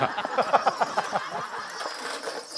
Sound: jingling

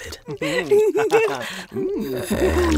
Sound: people laughing

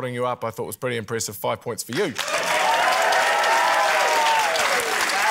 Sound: cheering, applause

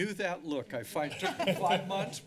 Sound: laugh

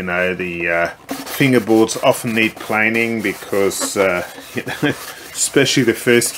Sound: chuckles

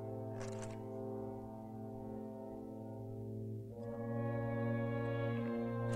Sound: ominous music; softly rustling

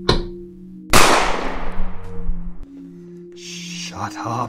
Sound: knocking; gunshot

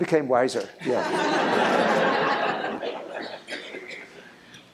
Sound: laughter

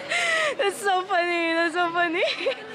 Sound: laughs

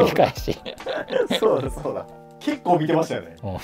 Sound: laughing

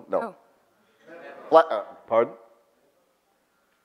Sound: audience calls out

